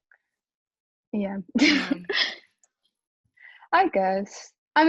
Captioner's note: chuckles